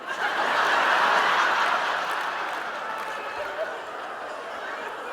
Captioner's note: audience laughing